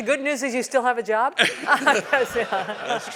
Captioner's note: laugh